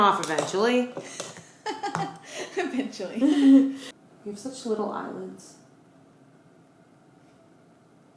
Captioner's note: laughs